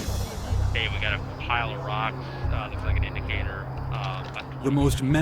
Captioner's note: marine on radio; voiceover